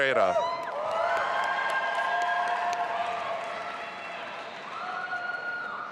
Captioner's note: audience applauding and cheering